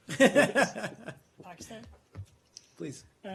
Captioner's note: laughter